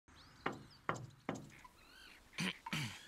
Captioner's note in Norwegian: sjø, knirking, måker i det fjerne